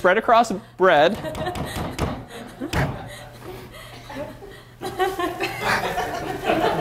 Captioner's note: bangs on jar lid; laughter